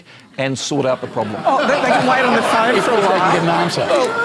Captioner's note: audience laughter